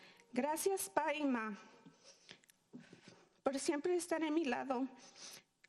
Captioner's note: speaking in foreign language